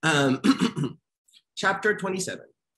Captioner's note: clearing throat